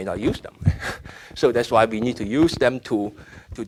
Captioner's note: laughing